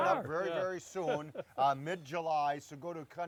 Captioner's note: laughter